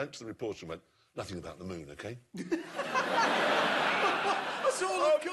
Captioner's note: laughter